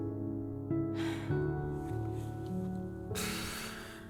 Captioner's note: sighs